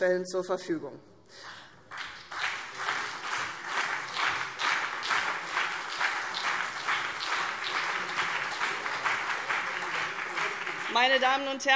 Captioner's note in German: Beifall CDU und BÜNDNIS 90/DIE GRÜNEN